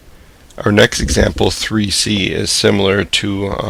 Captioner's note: voiceover